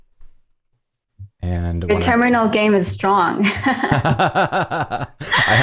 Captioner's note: laughter